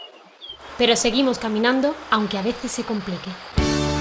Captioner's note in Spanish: Voz en off